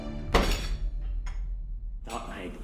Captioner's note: foot slamming